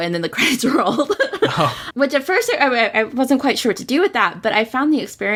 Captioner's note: laughs